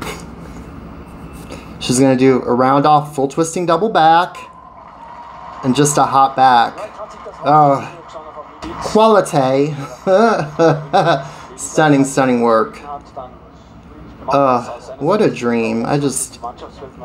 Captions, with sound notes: She's going to do a round off, full twisting double back and just a hop back. Quality (laughs) Stunning, stunning work. What a dream. Fabrichnova